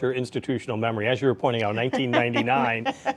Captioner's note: laughs